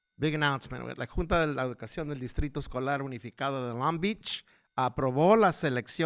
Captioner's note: speaking foreign language